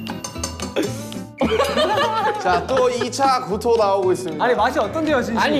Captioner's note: everyone is laughing too